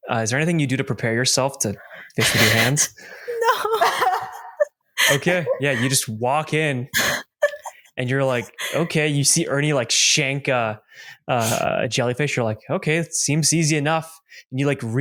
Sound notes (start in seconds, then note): 3.2 laughs; 6.9 laughs again